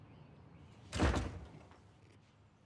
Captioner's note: door slams shut